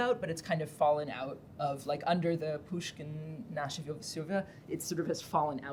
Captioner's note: russian